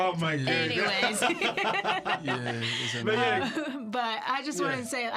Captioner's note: laughter